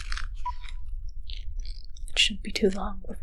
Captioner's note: beeping stops